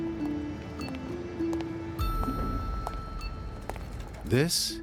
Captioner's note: heels tapping against a pavement